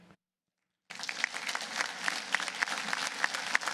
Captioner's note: applause